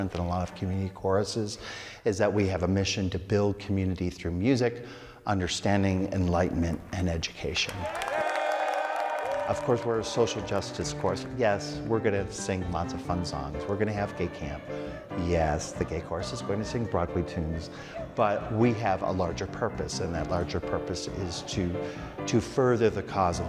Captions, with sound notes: than a lot of community choruses, is that we have a mission to build community through music, understanding, enlightenment, and education. (crowd cheering) (crowd applauding) Of course we're a social justice chorus. Yes, we're gonna sing lots of fun songs, we're gonna have gay camp. Yes, the gay chorus is gonna sing Broadway tunes. But we have a larger purpose, and that larger purpose is to further the cause